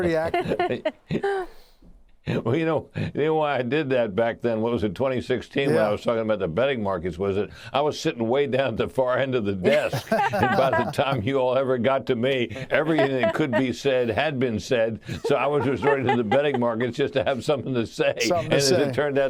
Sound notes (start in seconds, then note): 9.6 laughter